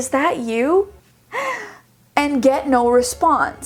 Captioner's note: gasping